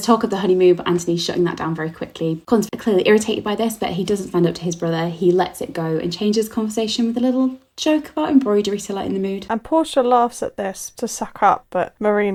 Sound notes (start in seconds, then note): none